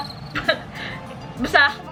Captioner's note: chuckles